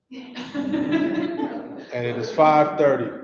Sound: people laughing softly

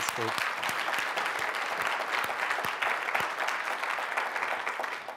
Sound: audiences clapping

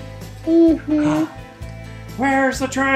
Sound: gasps

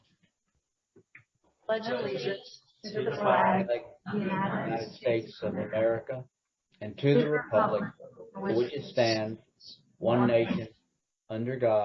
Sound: Pledge of Allegiance recited in unison

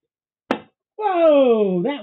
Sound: thump

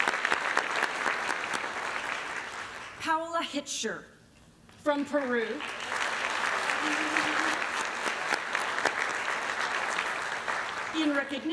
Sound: applause; applause

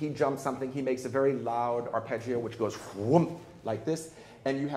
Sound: blows air

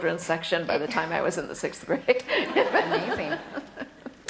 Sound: laughter

